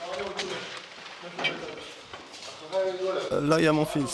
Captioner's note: Arabic spoken audio